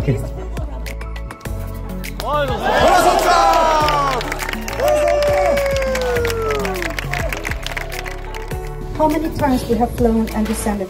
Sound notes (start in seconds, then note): 4.6 guests clapping and cheering